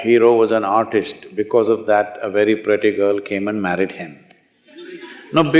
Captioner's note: laughter